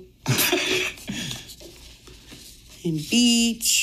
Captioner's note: laughing